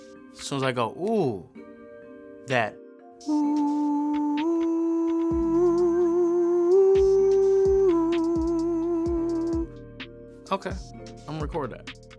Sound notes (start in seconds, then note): 3.3 vocalizes